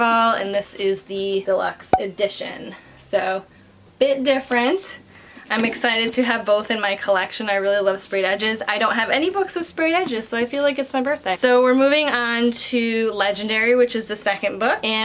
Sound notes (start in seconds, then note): 1.9 bubble popping